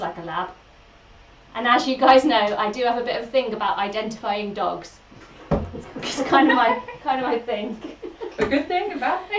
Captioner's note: laughs